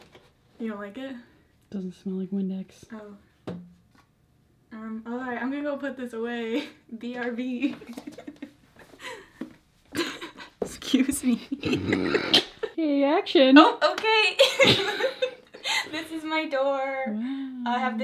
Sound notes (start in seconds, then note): 7.8 laughs; 11.4 both laugh; 14.7 both laugh